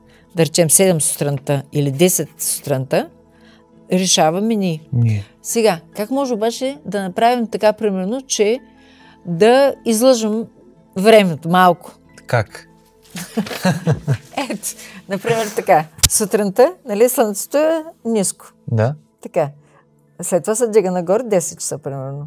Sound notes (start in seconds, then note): 13.2 laughter